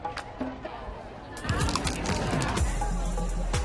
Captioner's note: crunching